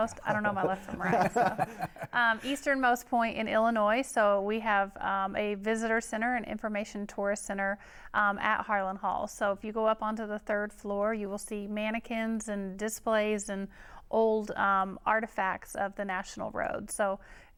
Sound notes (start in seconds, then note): 0.0 laughing